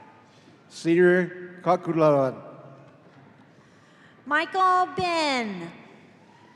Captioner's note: none